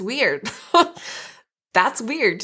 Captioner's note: laughing